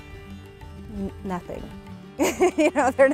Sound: laughs

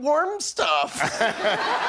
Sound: laughter

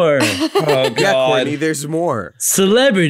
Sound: laughs

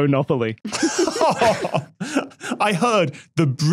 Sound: laughs

